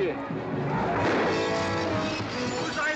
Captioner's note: gunshots